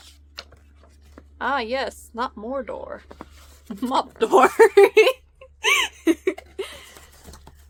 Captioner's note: laughs